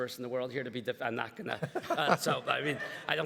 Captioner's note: everybody laughs